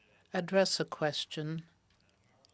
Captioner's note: speaking FRENCH